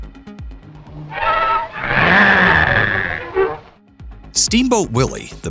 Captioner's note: Pete growls at Mickey